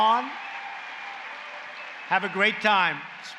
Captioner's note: applause